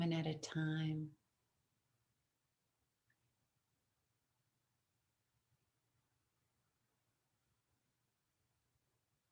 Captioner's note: silence